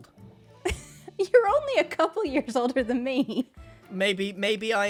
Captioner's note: laughs